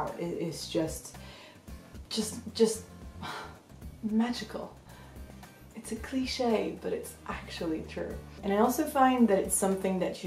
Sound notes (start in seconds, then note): 3.2 sigh